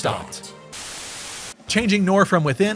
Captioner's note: static buzz